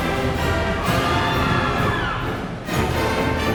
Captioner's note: crowd cheering